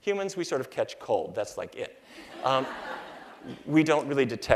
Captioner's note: laughter